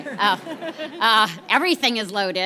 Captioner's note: people laugh